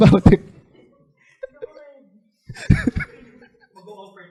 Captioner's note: laughter